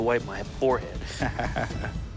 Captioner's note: chuckles